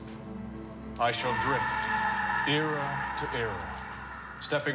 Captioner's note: man screaming